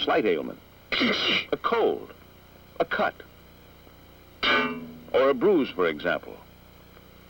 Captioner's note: sneeze